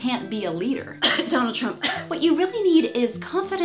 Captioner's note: cough